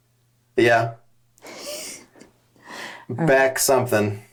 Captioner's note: chuckles